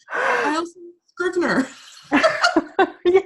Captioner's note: laughing